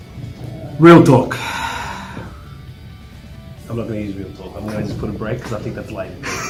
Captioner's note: laugh